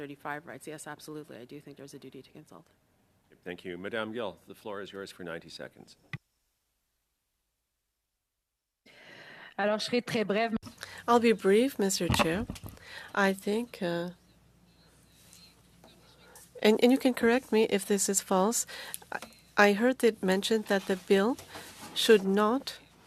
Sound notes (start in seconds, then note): 19.5 speaking French